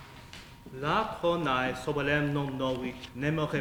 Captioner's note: speaking latin